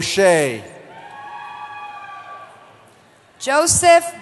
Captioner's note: cheering